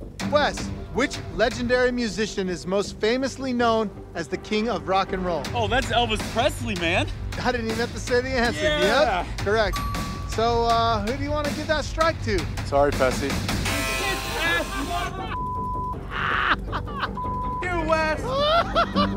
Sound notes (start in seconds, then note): 14.0 murmurs; 16.0 laughs